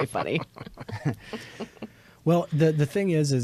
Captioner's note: all chuckle